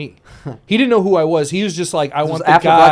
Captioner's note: snickers